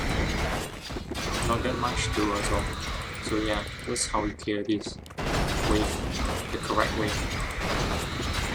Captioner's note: golem wave